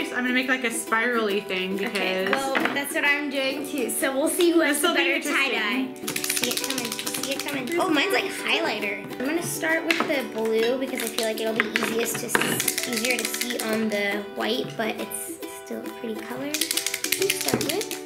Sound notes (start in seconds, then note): none